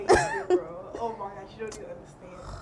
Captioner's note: laughs